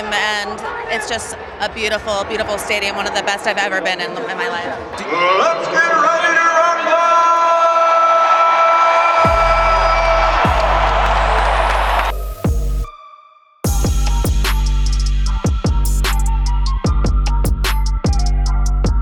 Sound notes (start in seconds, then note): 8.2 crowd cheering; 10.4 hip hop music